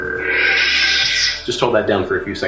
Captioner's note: electronic buzzing